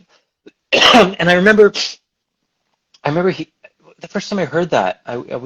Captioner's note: coughs